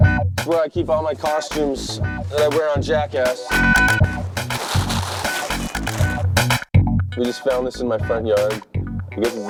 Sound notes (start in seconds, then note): 3.2 funky beat; 3.7 bags crinkling